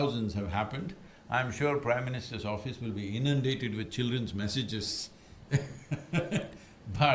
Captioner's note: laughs